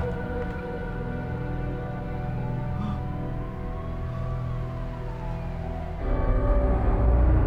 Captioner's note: police sirens in distance